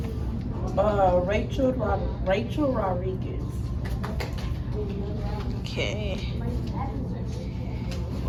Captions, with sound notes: - Rachel Rodriguez. (clapping) - Okay.